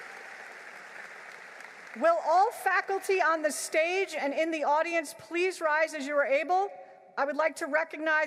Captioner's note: applause